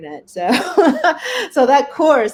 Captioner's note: laughs